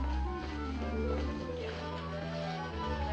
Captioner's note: none